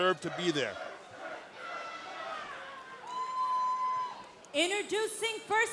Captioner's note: crowd chatter